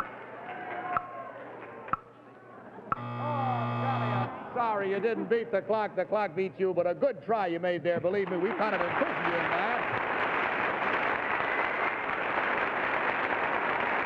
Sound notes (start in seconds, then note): 0.3 audience cheering; 2.9 buzzer sounds; 10.1 audience applauds